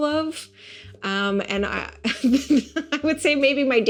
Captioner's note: laughing